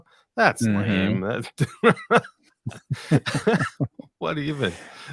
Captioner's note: laughing